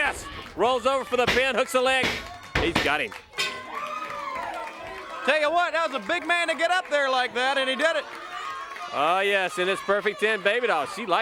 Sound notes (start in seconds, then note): 4.8 crowd cheering